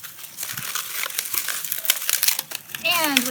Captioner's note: leaves rustling